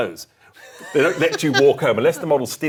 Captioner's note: laughs